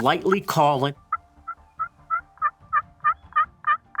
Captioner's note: light turkey calling